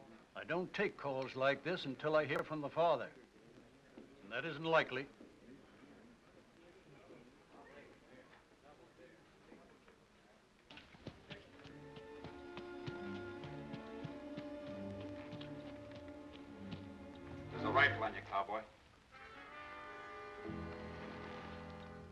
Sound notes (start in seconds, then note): 10.8 hoofbeats; 11.7 ominous music; 19.1 ominous music